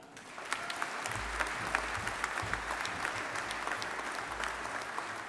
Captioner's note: audience applauding